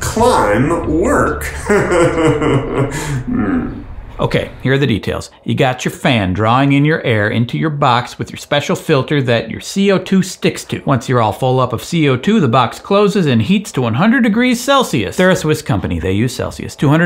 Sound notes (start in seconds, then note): 1.4 officer laughing